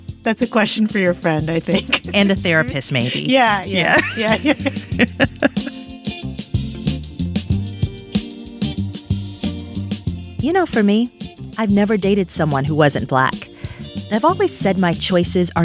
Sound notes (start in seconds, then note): 4.8 both laughing; 6.3 pleasant music